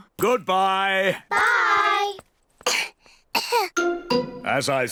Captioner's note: both cough